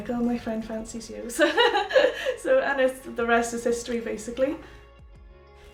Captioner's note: laughs